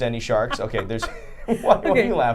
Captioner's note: laughing